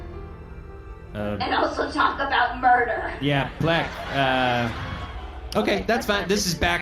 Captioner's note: dramatic music plays; audience laughing